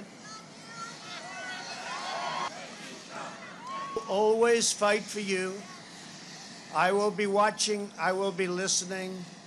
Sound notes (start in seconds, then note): 1.0 cheers